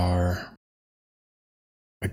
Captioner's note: silence